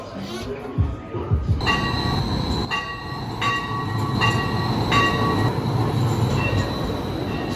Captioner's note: street car chimes